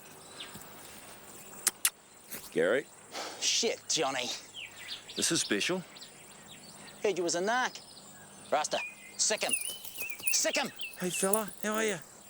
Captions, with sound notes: (smacks lips) Gary? (Gary sighs) - Shit, Johnny. - This is special. - I heard you was a narc. Rasta, sic him. Sic him! - Hey fella, how are you?